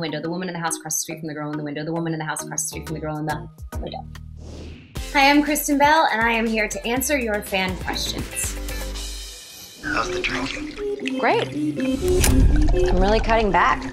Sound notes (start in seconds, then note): 11.7 cork popping; 12.1 wine pouring